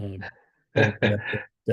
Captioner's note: laughs